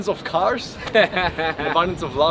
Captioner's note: laughs